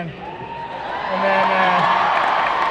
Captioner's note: crowd cheers